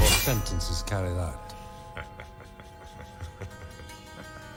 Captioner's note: Harry laughing